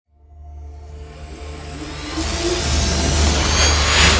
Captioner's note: logo sizzling